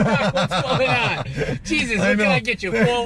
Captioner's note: laughs